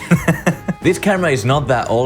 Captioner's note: laughs